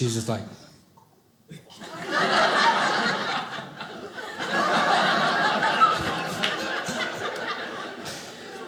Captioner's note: audience laughing